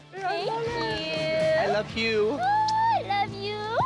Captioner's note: laughs